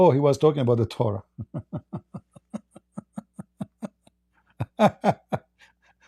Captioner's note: Ketawa